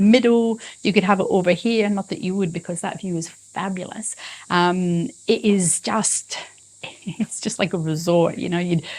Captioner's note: chuckles